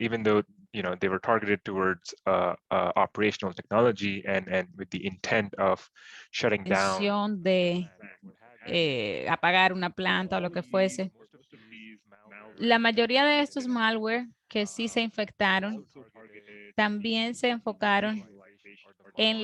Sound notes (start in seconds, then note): 8.7 foreign language spoken, 0:51:58 to 0:52:20